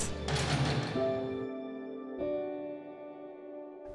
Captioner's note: cell door closing